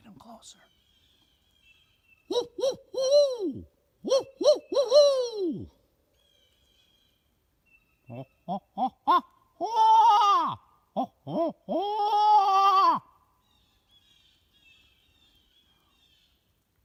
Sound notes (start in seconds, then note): 0.0 blue jays calling; 2.2 hooting; 6.0 blue jays calling; 9.1 hooting; 13.3 blue jays calling